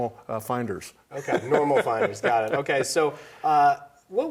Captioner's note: laughs